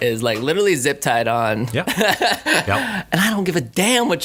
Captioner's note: he laughs